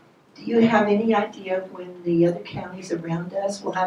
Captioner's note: voiceover